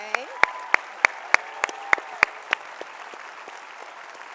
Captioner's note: audience applauding